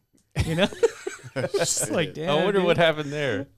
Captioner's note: laughing